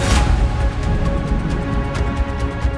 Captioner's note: thunder rumbles